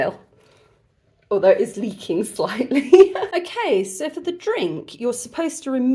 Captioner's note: laughing